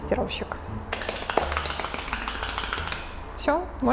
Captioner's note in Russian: аплодисменты